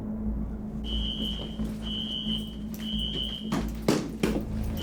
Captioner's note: alarm screeching